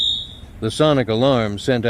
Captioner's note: sonic alarm sounds